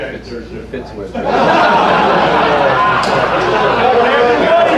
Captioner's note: crowd laughing